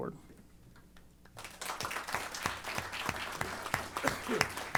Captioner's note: applause